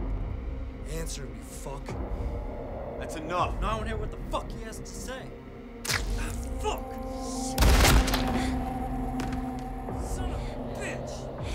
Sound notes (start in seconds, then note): 5.8 mouth squishing; 7.6 gun bangs